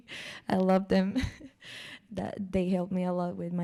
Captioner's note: laughs